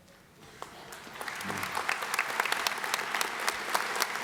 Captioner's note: applause